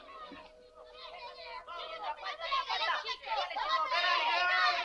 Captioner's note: distant children yell